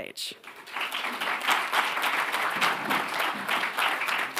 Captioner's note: attendees clapping